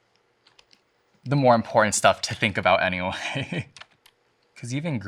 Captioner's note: chuckles